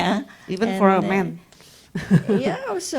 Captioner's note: laughs